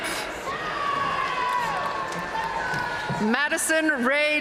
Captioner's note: audience cheering and applauding